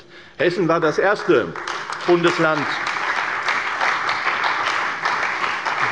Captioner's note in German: Beifall bei der CDU und dem BÜNDNIS 90/DIE GRÜNEN